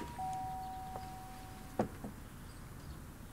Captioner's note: doorbell rings